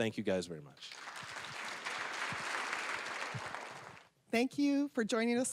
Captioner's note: applause